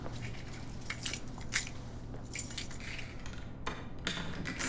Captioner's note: keys jingling